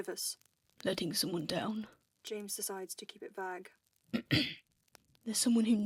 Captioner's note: clears his throat